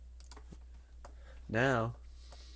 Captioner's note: click